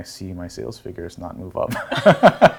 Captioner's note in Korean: 웃음